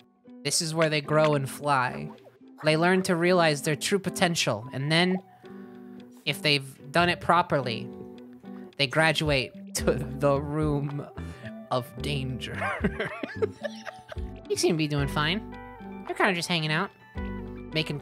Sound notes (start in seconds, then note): 12.6 laughing